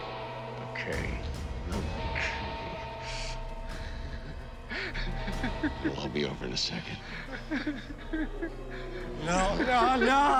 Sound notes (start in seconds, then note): 3.7 laughs